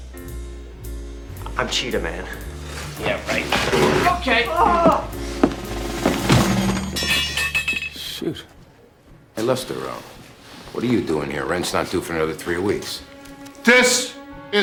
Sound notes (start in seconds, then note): 5.7 groans; 7.7 metal clangs